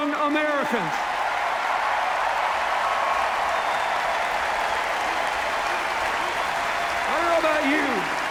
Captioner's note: cheers, applause